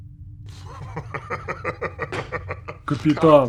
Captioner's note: laughter